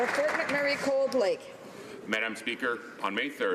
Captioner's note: applause